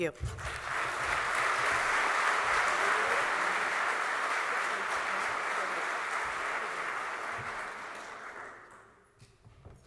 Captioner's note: applause